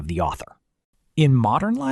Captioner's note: pause